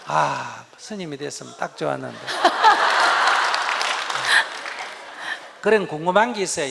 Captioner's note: audience/Questioner Laughter